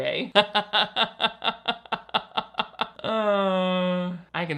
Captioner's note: laughs